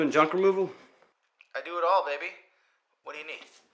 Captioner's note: Marco On Phone